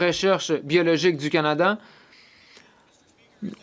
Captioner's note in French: voix de l'interprète